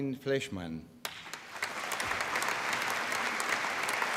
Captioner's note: applause